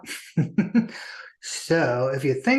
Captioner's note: chuckles